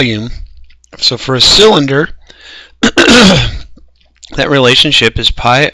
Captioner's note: cough